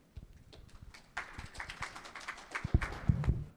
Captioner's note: applause